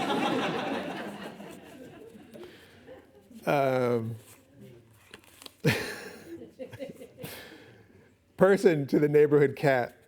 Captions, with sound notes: [laughing] [chuckles] Person to the neighborhood cat